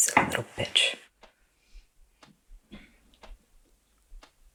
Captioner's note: clock ticking